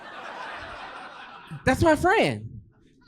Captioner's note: audience laughing